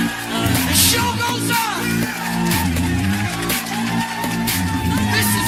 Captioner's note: Aplauze